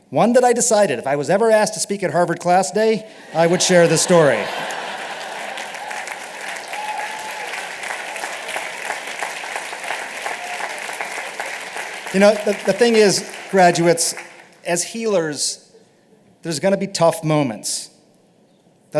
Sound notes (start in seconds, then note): 3.1 laughter; 5.3 applause and cheering